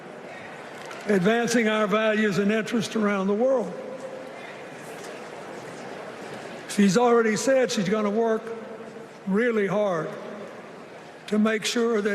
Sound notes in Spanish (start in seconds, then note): 1.6 Aplausos